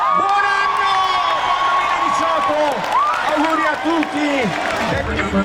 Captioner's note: background voices and shouts